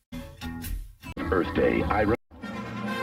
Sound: on TV; fanfare playing

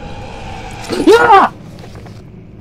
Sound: screams

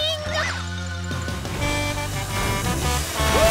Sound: honking

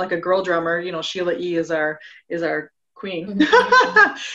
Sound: laughing

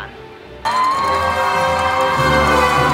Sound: cheering

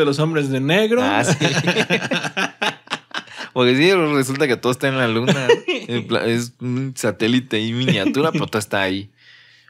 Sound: laughs

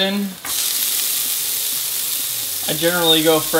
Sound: sizzle

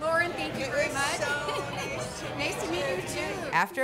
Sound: laughs

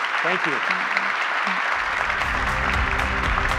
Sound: audience applauds; upbeat music

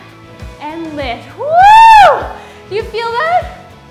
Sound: shouts

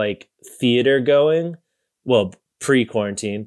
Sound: none

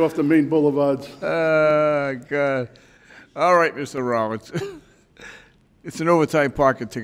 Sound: laughs

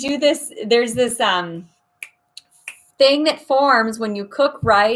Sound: snaps

